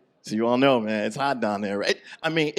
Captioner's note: none